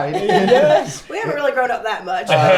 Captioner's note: laughs